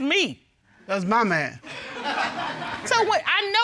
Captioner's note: audience laughing